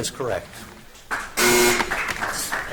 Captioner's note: buzzer buzzes